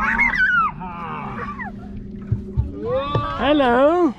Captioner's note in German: lacht